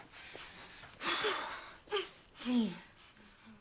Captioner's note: sighs